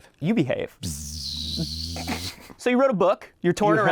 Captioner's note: buzzing